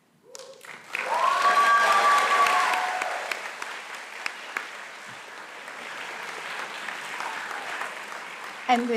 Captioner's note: applause